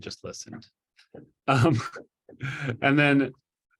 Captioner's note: chuckles